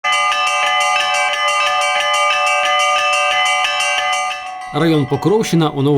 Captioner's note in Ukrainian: дзвони